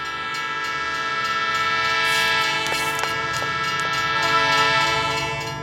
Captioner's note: train whistle blaring; bell dinging